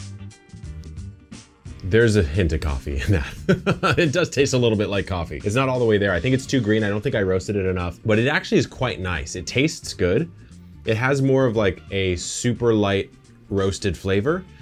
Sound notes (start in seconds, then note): 0.2 relaxing music; 3.0 laughing